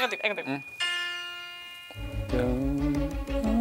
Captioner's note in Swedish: Ton spelas från mobilen; hummar med